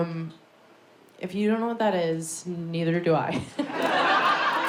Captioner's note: audience laughs; laughs